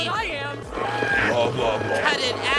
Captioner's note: grunts